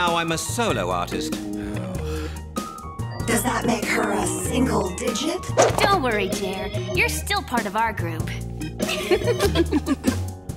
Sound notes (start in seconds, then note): 3.1 sighs